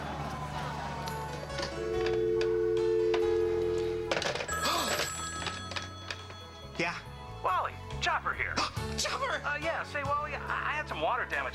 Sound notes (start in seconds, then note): 1.7 dial tone; 3.9 rings